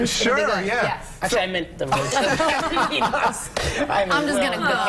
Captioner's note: laughter